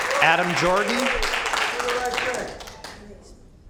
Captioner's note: applause